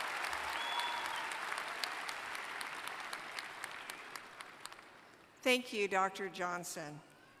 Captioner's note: applause